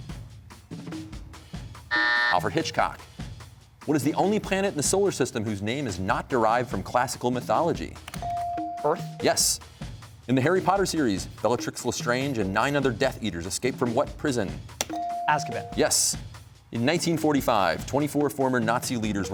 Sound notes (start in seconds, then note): 1.9 buzzer